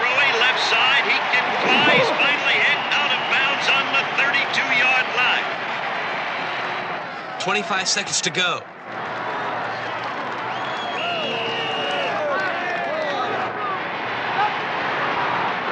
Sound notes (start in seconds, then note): 10.6 referee whistling; 14.2 crowd cheering